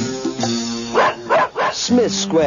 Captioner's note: barking